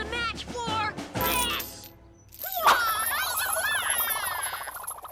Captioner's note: nun chucks whooshing